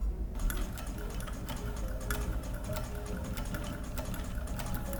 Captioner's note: sewing machine whirring